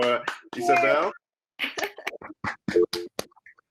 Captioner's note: applause